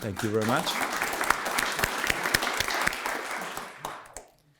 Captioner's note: audience clapping